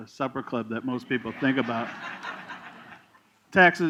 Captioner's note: laughter